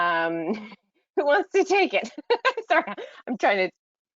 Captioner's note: laughs